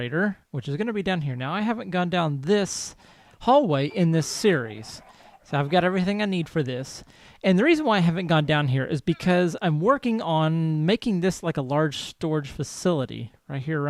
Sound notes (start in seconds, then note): 2.7 chickens clucking; 6.0 donkey brays; 8.9 llama calls